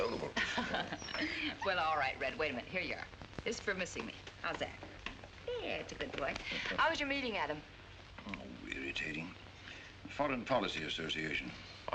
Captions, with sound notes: That dog of yours has been inconsolable. [ MARY CHUCKLES ] Well all right Red, wait a minute, here you are. This is for missing me, how's that? That's a good boy, how was your meeting, Adam? Irritating. Foreign Policy Association.